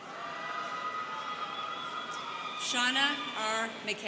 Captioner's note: students cheering